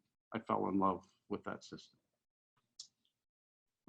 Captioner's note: faintly speaking